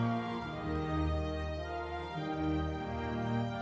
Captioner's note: crowd cheering